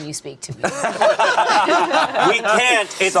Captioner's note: group laughing